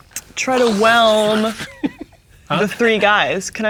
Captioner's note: laughing